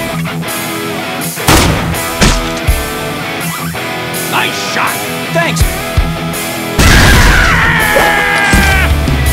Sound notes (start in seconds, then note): 6.8 screaming